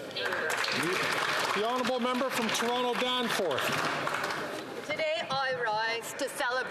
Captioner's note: some Applause